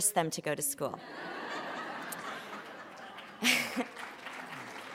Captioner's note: laughter; applause